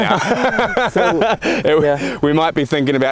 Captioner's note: laughing